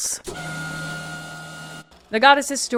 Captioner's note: sound of a screen being lowered